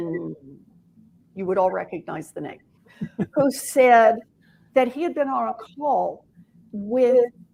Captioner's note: laughter